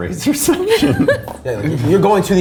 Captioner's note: laughs